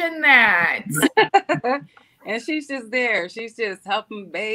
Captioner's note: laughs